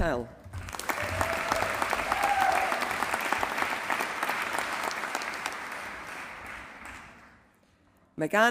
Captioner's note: applause